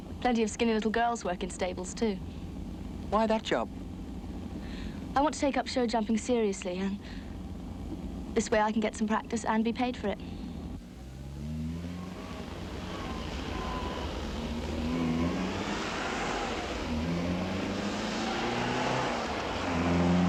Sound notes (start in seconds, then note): none